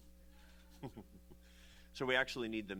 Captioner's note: laughs